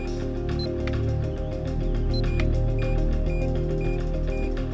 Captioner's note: buttons beep